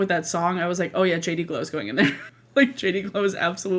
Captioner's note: laughs